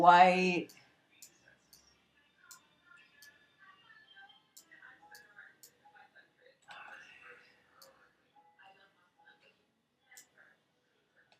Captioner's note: clicking and TV in the background